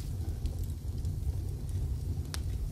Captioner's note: fire crackling